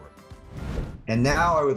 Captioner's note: graphic swooshing